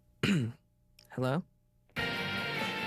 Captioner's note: clears throat